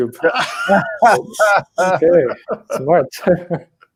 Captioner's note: both chuckles